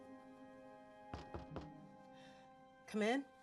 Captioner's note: knocks on door